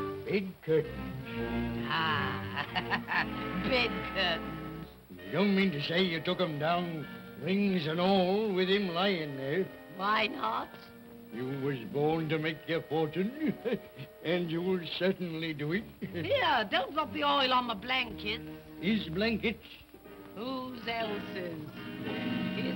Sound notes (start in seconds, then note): 1.9 laughs